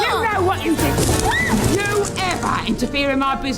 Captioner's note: child shrieks